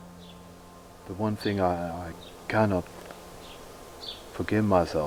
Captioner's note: birds chirping